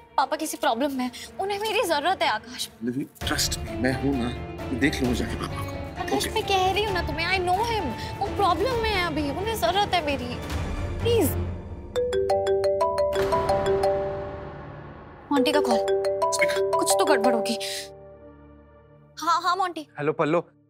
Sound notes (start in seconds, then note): 12.0 phone rings